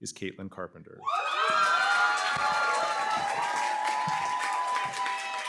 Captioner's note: applause, cheering